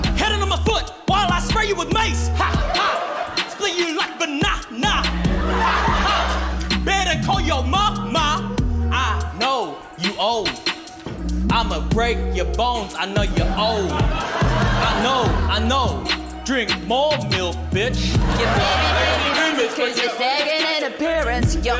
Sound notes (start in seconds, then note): 5.0 laughter; 13.4 laughter; 17.7 laughter